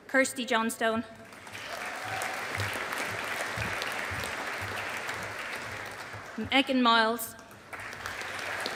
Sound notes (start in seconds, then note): 1.2 audience applauding